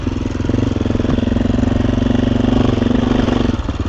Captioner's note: engine roaring